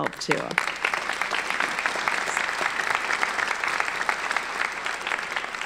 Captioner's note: audience applauding